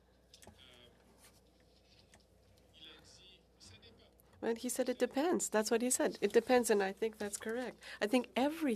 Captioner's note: speaking French